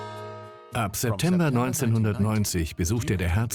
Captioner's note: voiceover